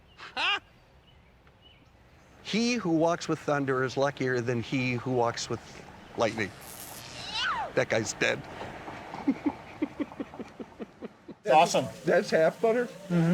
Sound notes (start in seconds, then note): 0.2 laughing; 6.3 zapping sound; 7.1 scream; 8.9 laughing